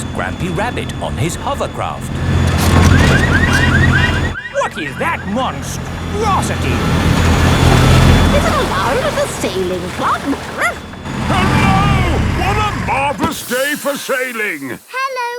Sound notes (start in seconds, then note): 3.0 car alarms blaring; 10.8 barks